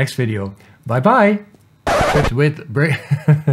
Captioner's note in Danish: record scratch